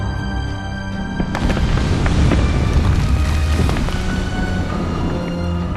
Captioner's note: fire raging, timbers cracking